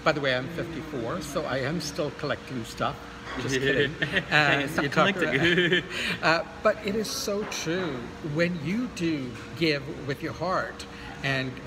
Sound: haha

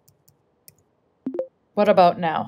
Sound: keyboard clicking; voice activation sound

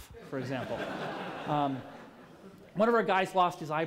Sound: laughter

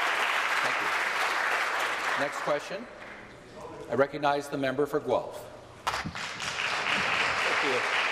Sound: applause

